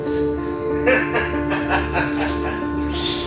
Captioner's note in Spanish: risas